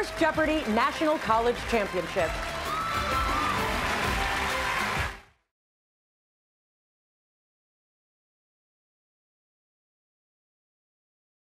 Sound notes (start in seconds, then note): 2.7 cheers and applause